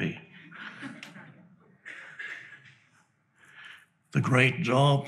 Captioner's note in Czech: diváci se smějí